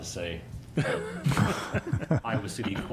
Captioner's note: laughter